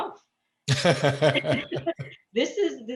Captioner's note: laughs